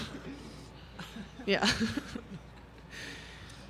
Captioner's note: laughter